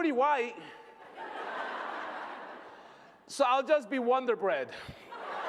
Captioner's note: laughter; laughter